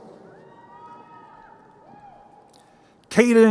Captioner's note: crowd cheering